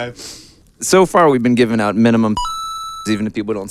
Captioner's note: game pings